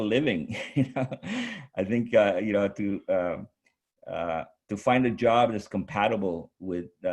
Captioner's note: chuckles